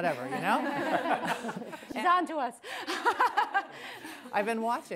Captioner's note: laughter; laughs